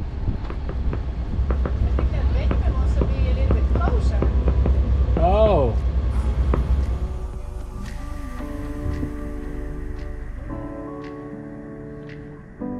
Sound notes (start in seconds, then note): 0.6 fireworks popping; 7.8 relaxing music